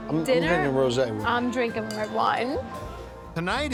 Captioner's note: glasses clink